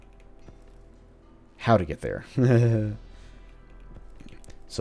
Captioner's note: nervous chuckle